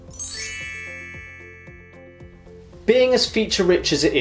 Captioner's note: chimes